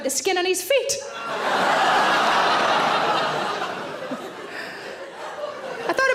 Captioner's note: audience laughing loudly